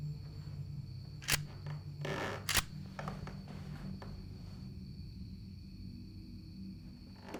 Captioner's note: gun snaps; tense droning continues